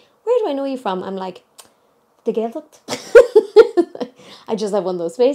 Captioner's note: chuckling